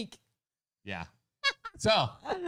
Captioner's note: laughing